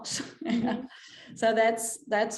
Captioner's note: chuckles